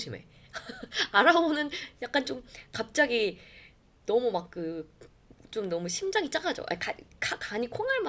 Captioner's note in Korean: 웃음